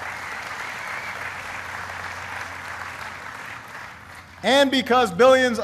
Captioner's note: applause